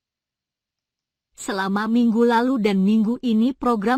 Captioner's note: program reading out loud in Indonesian